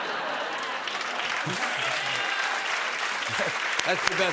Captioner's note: laughter; cheers and applause